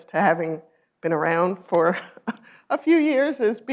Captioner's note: laughs